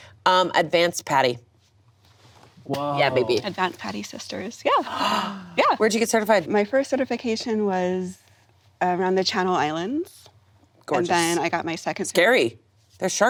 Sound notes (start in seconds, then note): 4.8 gasps